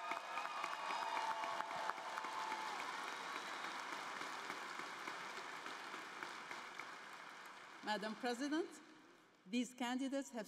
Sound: cheers and applause

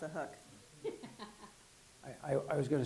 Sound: laughing

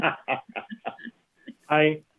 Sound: laughter

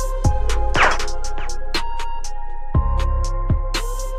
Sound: silenced gun firing; trap music continues

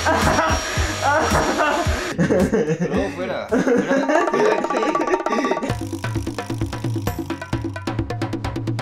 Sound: laughs

